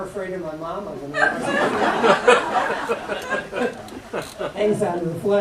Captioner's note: laughter